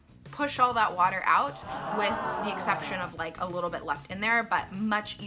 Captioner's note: crowd oohs; crowd ahhs